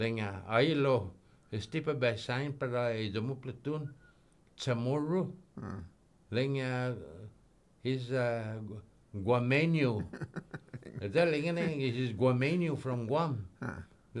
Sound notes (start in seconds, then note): 9.9 laughing